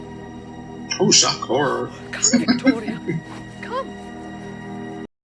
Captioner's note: laughing